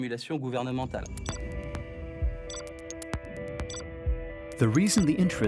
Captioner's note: suspenseful music; electronic beeping